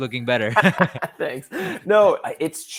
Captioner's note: laughing